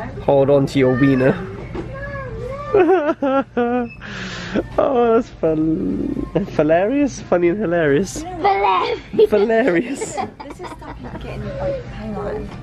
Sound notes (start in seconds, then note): 2.6 laughing